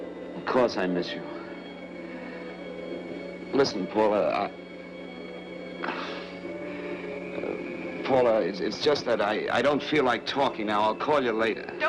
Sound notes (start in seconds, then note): 5.8 he sighs helplessly